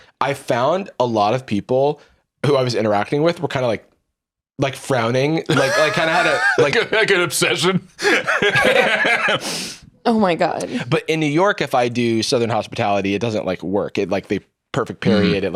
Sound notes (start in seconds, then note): 5.5 laughing; 7.9 both laugh